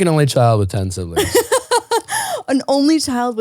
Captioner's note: laughing